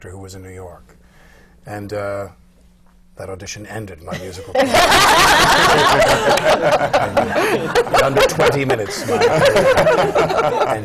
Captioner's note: laughter